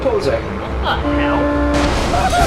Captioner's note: awful Voice